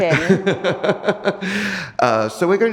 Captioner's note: laughs